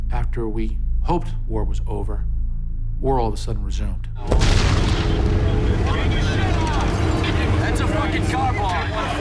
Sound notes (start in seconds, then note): 4.3 gunshots, explosions, yelling; 9.0 soldiers yelling